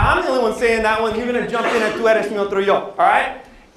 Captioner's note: non-english speech